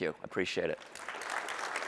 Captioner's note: applause